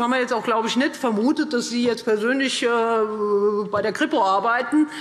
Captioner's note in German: none